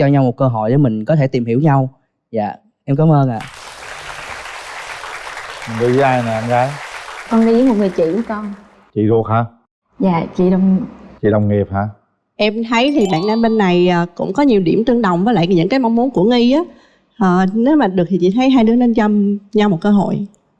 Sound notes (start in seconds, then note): 3.4 applause